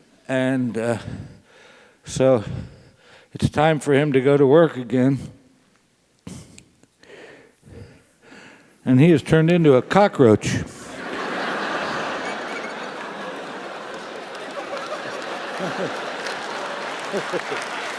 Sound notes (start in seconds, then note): 9.8 laugh; 15.6 applause